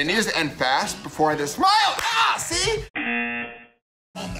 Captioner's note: buzzer